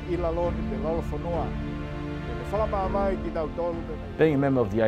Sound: tongan language and music

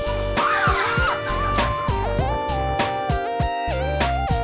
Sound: girls scream

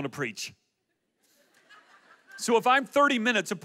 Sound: audience laughs

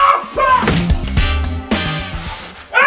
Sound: thud

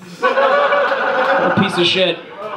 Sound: audience laughs

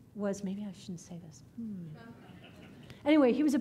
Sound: audience laughing

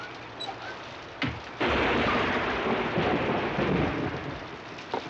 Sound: thunder blasting

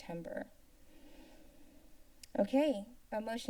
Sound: silence

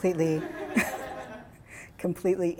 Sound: laughing

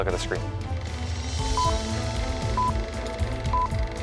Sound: beeping

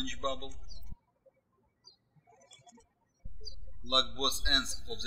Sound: birds chirping

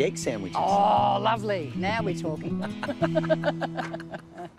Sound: both laugh

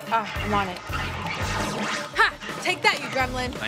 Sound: lasers zapping

